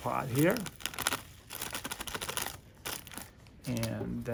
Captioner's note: bag rustles